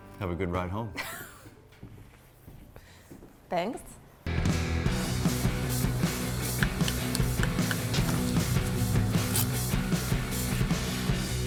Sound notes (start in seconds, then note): 1.2 laughs